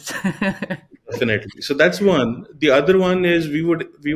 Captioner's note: chuckles